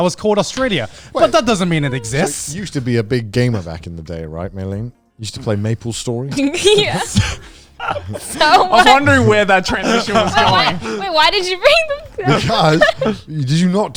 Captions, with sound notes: that was called Australia. But that doesn't mean it exists. - There used to be a big gamer back in the day, right Meilyne? You used to play "MapleStory?" - Yeah, (laughs) so much. (all laughing) - I was wondering where that transition was going. - Wait, why did you bring that up? (laughs)